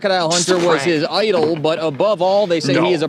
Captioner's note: laughs